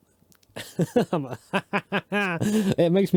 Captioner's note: laughs